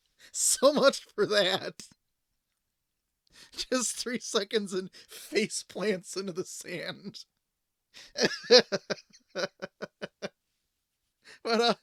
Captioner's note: laughing